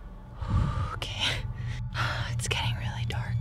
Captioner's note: whispering